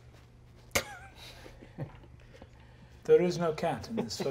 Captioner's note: wheezes